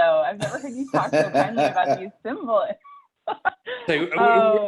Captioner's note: laughter